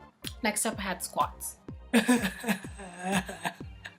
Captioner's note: cries into the void